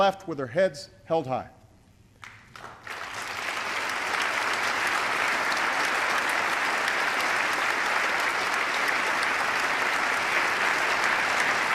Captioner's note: applause